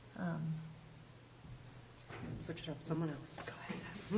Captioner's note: whispering